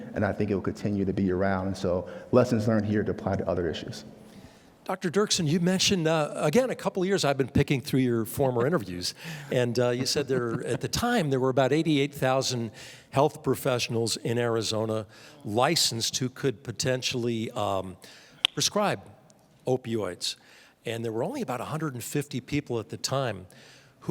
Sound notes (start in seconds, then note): 8.2 laughing